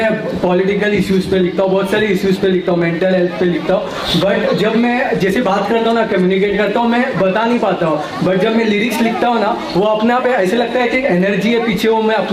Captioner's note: speaks in Hindi - not transcribed